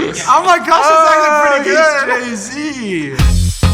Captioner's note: exclaiming loudly; upbeat music